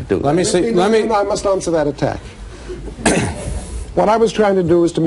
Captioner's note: soft laughter